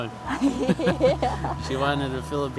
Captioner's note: both laugh